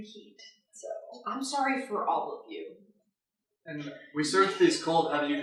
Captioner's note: laughter